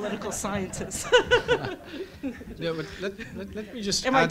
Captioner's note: crowd laughs loudly; laughs